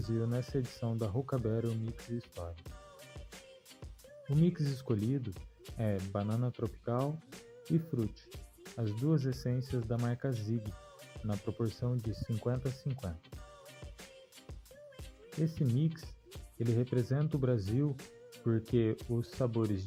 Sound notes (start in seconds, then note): none